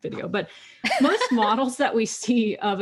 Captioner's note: laughs